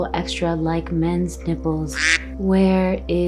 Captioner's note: duck quacks